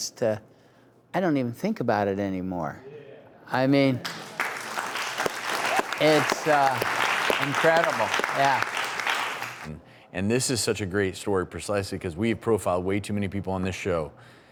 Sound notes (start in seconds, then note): 4.0 audience applauding